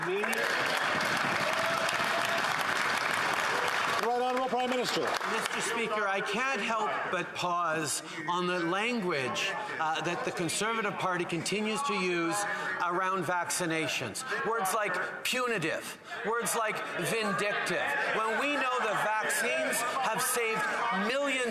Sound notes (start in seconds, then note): 4.6 some Applause